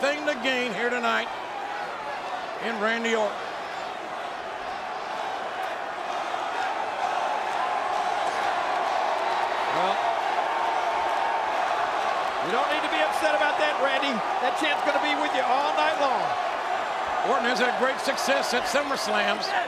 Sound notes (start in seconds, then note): 4.8 crowd clamoring